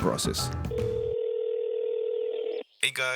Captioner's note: phone ringing